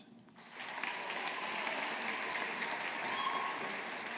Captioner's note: audience applauding